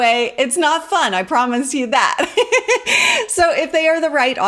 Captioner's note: laughs